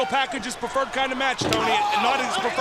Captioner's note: crowd chatter